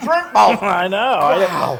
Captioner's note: laugh